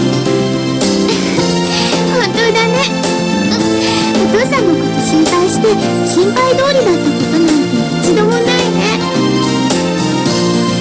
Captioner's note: giggles